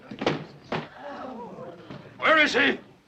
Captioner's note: patrons gasping